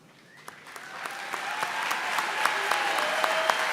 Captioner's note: applause